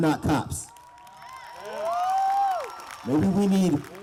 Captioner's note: cheers, applause